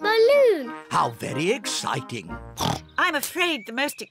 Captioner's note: oinks